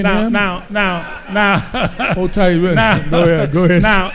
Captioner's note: laughs